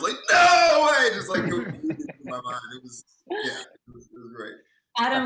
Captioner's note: voice scrambles